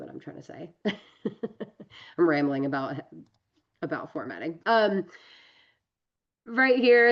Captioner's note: laughs